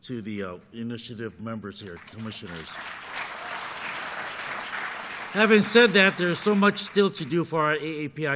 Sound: applause

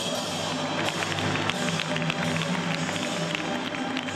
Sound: applauding

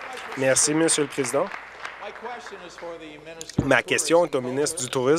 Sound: some Applause

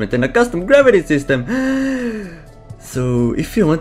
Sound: inhale

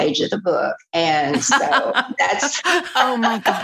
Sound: laughter

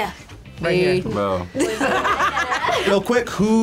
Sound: group laughs

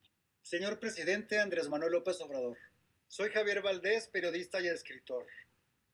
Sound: speaking in foreign language

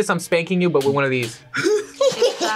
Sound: laughs; laughs eerily

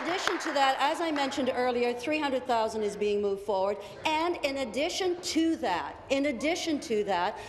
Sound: applause

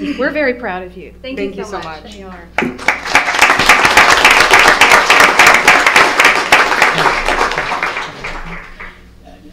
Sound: applause

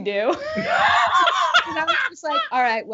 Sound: both laughing

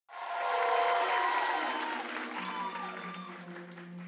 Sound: audience applauds

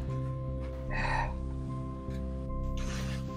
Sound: sigh

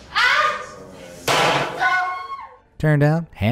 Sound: confetti popping

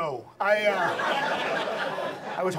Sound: audience laughs

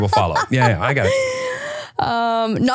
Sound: laughing

